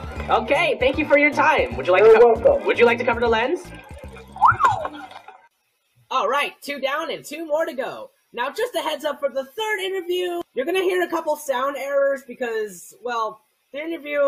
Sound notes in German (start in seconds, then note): 4.3 Pfeifen